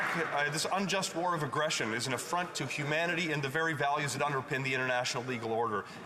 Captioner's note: applause